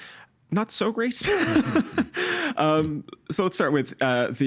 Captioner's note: laughing